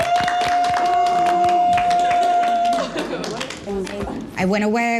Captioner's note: cheering